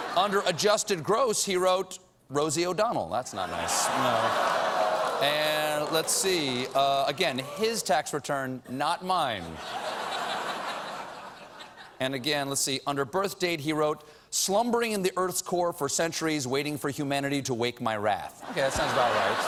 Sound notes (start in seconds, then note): 0.0 laughter; 3.3 audience reacts; 12.0 laughter